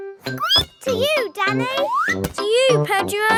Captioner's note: squeaks